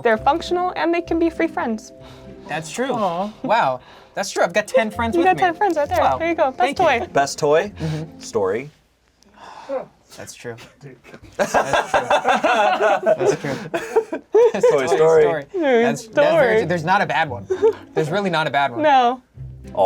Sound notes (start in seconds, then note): 9.3 sighs; 11.3 laughing